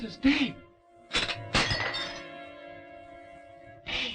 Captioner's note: china breaking